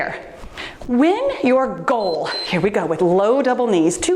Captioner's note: timer beeps